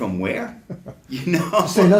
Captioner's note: both Laugh